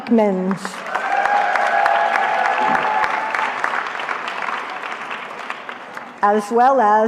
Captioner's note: cheering